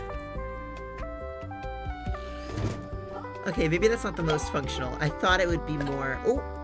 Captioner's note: giggles